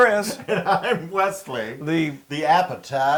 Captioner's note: laugh